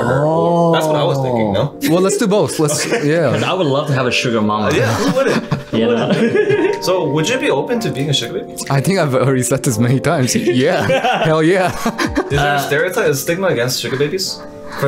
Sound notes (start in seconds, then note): 6.3 boys laughing; 10.4 all laughing